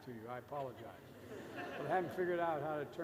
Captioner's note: laughter